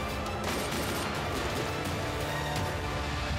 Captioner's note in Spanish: Disparos